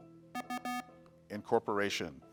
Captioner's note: buzzer beeps